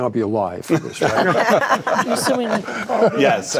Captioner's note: group laughing